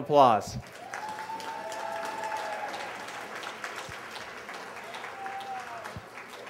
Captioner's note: applause